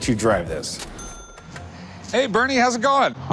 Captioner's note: cha-ching